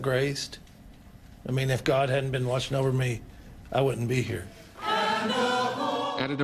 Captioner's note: nats of memorial service